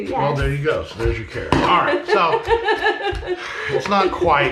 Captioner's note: chuckling